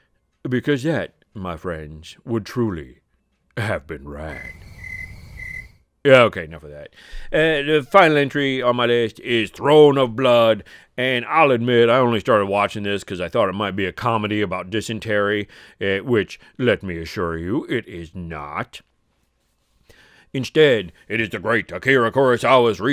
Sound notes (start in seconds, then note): 4.2 crickets chirping